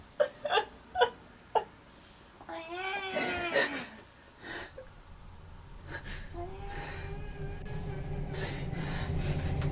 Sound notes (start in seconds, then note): 0.2 Kate crying; 2.5 cat meowing